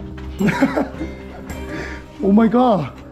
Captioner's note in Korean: 어이없어서 터져 나오는 웃음